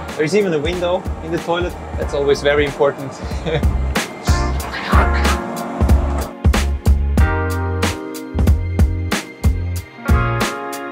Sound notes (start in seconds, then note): 3.2 chuckling; 4.4 upbeat music; 5.2 door whooshing; 6.3 upbeat music